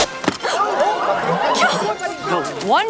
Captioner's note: crowd gasps